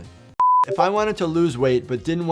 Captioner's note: beeps